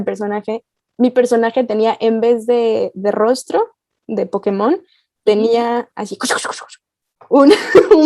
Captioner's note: eraser noises